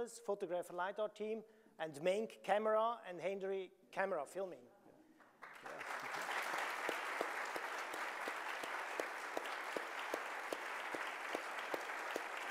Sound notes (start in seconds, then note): 5.3 audience applauding